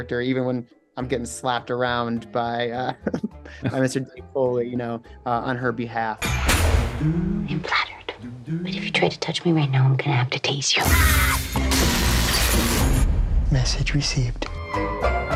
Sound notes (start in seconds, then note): 11.3 electricity buzzing